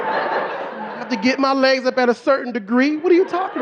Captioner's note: audience laughing